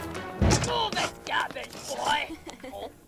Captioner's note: nervous chuckle